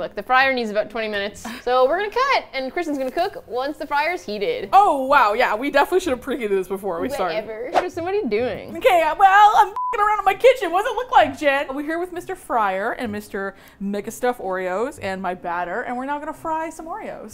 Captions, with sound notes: Look, the fryer needs about 20 minutes, so we're gonna cut and Kristin's gonna cook once the fryer's heated. - Oh, wow, yeah. We definitely should've preheated this before we started. - (mock whiny) Whatever. (whoosh) Kristin, what are you doing? - M'kay, well, I'm (beep) around in my kitchen. What does it look like, Jen?! We're here with Mr. Fryer and Mr. Mega Stuf Oreos and my batter and we're now gonna fry some Oreos!